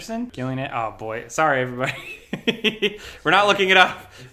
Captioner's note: laughs